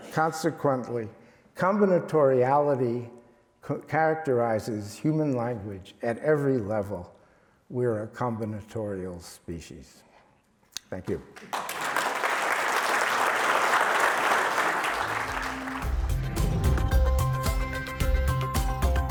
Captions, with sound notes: Consequently, combinatoriality characterizes human language at every level. We are a combinatorial species. Thank you. (audience claps) (lively electronic music)